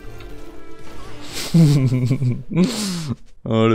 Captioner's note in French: Rire